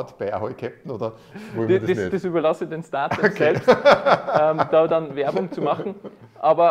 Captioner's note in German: lachen